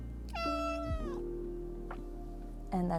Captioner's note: an adorable meow